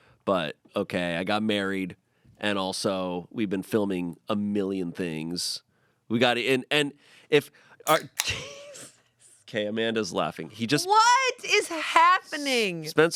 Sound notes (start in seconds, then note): 7.8 can cracks open; 9.5 laughs